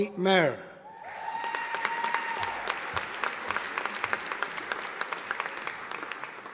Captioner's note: audience applauding